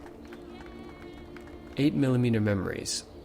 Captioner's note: clapping, cheering